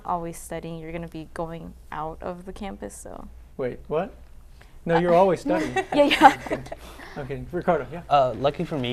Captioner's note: laughter